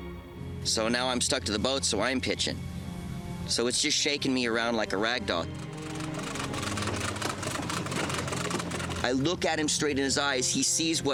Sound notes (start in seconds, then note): 5.5 cranking